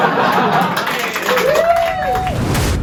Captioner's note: cheers and applause